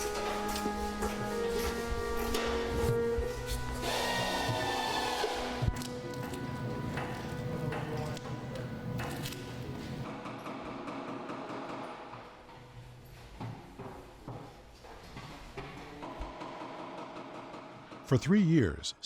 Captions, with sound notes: [screwdriver noises] for three years.